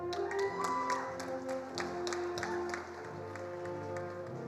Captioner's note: attendees applauding